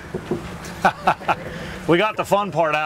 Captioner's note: laughs